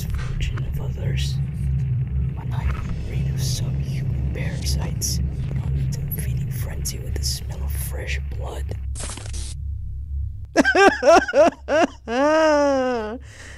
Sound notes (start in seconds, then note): 0.0 spooky sounds; 7.0 laughter